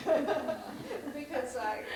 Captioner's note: laughter